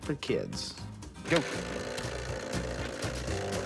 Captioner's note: rattling